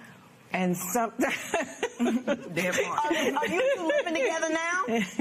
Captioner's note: laughs